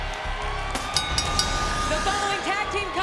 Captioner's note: siren screeching continues; upbeat music; bell dinging